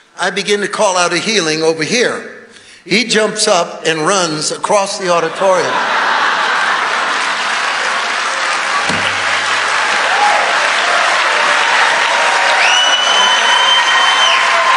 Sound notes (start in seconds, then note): 5.5 congregation cheering